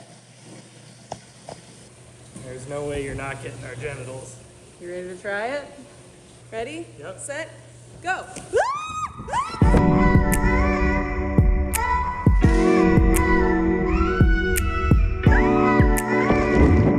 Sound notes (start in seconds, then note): 8.5 screaming; 9.6 upbeat music